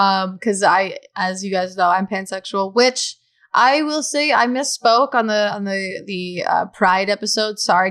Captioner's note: none